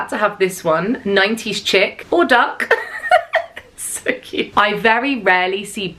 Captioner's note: chuckles